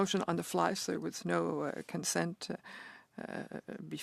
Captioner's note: speaking French